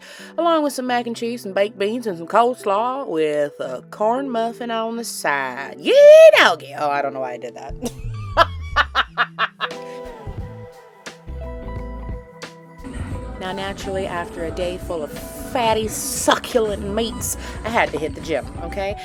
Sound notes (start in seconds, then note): 8.7 boisterous laughter